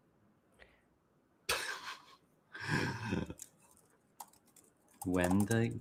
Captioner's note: chuckles